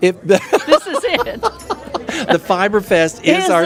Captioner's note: laughing